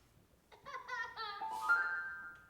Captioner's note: twinkling music; child laughing; twinkling music